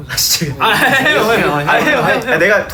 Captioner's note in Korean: 격려하는 소리